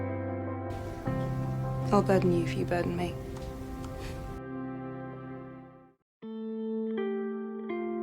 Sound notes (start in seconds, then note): 2.1 voiceover; 4.0 Max scoffs